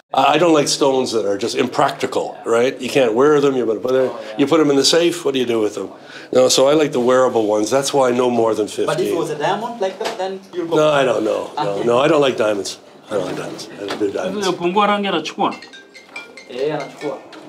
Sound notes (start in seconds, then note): 15.0 speaks Swahili; 15.2 phone rings